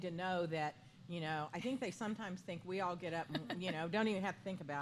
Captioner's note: laughter